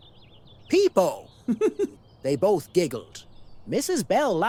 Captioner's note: giggle